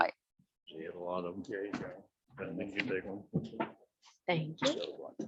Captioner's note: indistinct chatters